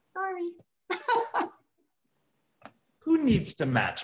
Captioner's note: laughing